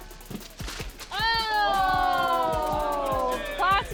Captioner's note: all exclaiming